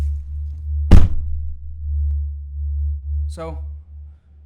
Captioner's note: car door slams